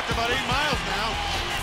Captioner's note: crowd cheering